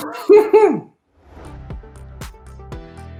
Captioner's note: laughs